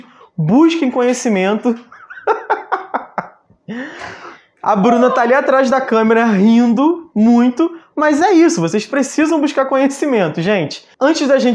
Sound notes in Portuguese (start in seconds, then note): 1.8 risos